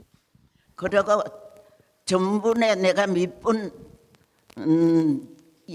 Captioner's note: speaking in foreign language